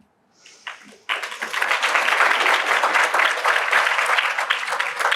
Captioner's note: applause